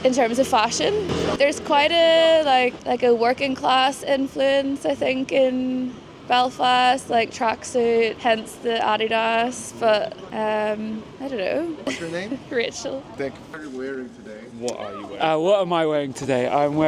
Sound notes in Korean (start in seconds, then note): 11.8 웃음